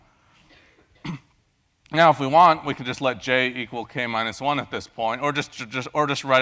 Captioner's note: cough